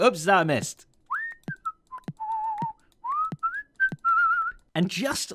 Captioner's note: whistles